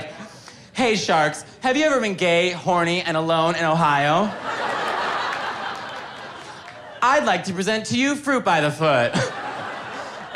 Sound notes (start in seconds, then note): 4.1 audience laughing; 9.0 audience laughing